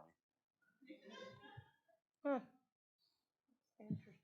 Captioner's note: audience laughing